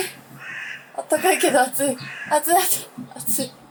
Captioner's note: laughs